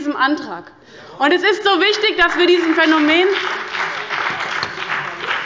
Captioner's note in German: Beifall bei dem BÜNDNIS 90/DIE GRÜNEN und der CDU